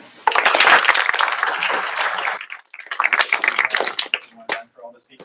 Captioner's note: applause